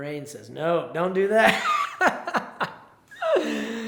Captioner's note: laughs